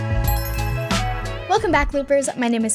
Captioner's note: bells chiming; light music